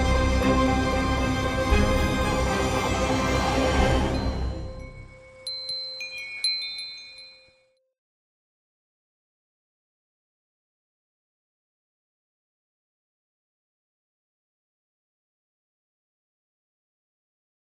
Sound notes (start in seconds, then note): 4.2 chimes ringing